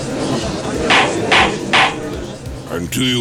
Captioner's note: gallery chattering; gavel slams!